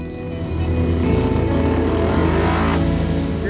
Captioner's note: bike accelerates